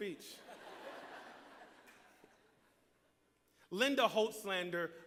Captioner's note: laughter